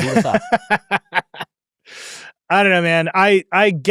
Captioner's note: laughs